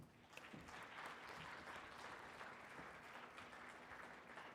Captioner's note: audience applauding